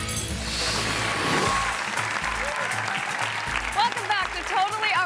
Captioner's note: audience applauding